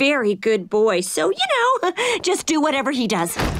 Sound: chuckles

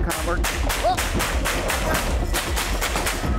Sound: gunshots

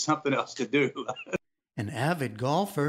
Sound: laughter

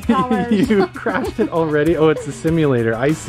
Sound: laughs

